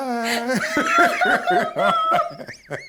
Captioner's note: both laughs